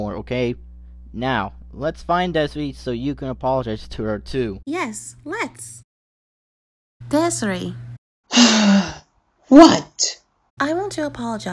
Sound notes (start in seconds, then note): 8.3 sighs